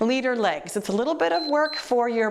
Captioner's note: timer beeps